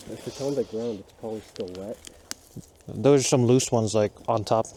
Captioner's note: none